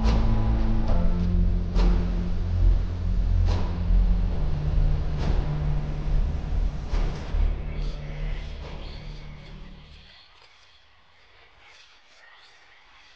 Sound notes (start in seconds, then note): 0.1 unsettling music continues; 7.8 disembodied voices whispering